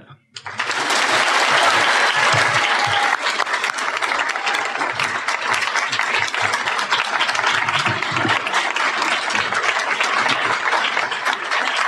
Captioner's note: applause